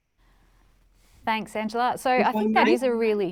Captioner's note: audio warbles